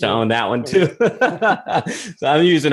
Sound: laughs

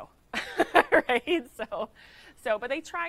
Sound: laughing

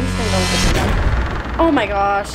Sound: suspenseful music; door creaking

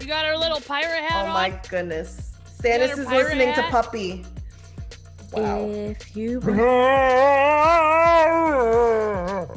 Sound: laugh

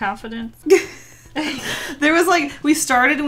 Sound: both laugh

